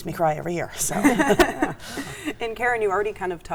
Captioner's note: everyone laughs